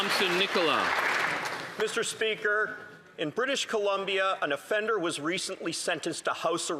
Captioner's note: some Applause